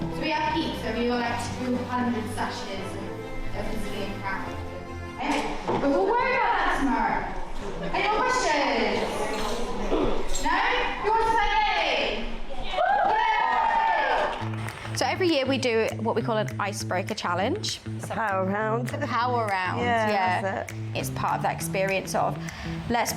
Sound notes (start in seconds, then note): 12.7 everyone cheering